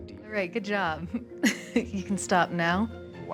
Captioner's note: laughs